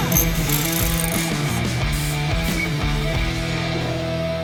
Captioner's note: car engine revving; wrench cranking; upbeat music